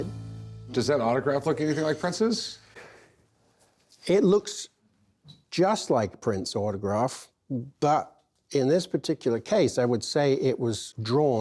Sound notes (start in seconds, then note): none